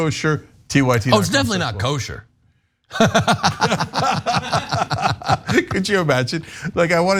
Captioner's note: laugh